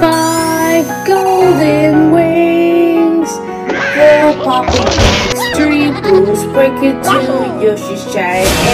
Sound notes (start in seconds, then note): 3.7 Red squawking